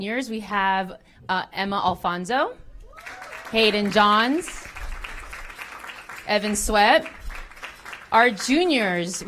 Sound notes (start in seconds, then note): 2.9 applause